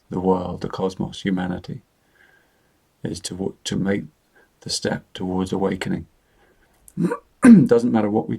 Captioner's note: clears his throat